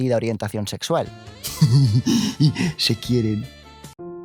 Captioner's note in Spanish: risitas